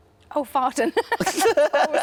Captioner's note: laughs; Tom laughs